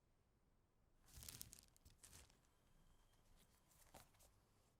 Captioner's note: book rustles